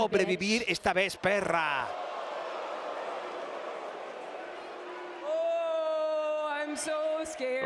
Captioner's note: applause